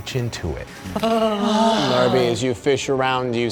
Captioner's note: shuddering